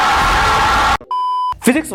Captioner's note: beep